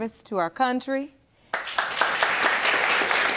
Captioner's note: audience claps